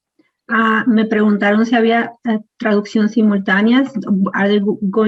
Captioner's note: speaking in foreign language